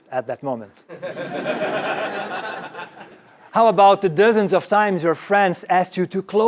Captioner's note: laugh